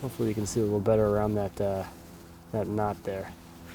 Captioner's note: none